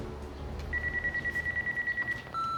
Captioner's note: phone ringing